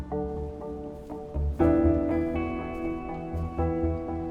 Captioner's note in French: rafales de vent